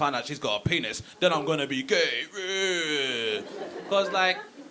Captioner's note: pretend cries